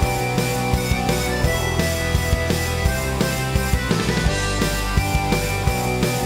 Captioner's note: none